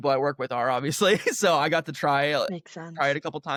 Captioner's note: laughter